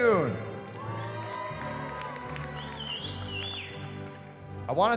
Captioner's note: cheering